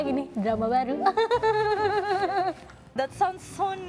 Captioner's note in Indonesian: Ketawa